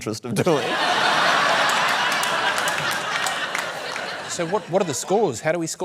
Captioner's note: laughter, applause